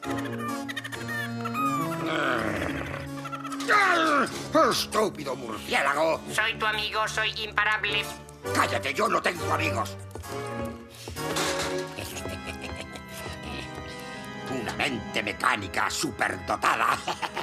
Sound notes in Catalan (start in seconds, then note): 1.4 crits de rat-penat; 3.3 soroll de xoc; 11.2 soroll de xoc; 16.6 riures